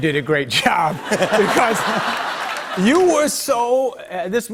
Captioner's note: laughter